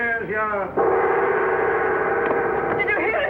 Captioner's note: gong sounds